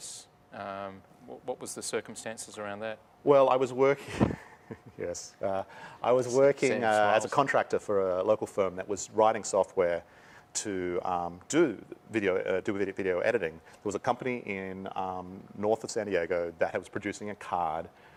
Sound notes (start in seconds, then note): 4.1 laughs